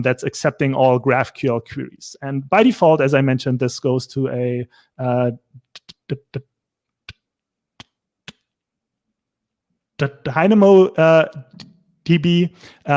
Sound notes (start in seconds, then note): 7.0 stammers